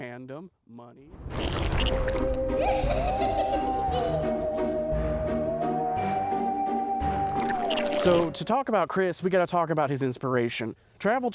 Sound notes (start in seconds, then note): 1.4 slime noise; 2.0 halloween witch cackle, spooky theremin music; 7.4 slime noise